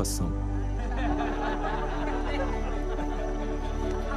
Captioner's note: laughter